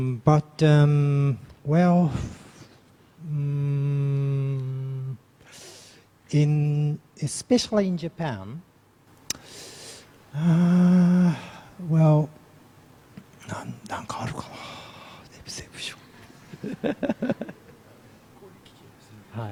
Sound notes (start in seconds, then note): 13.7 speaks in foreign language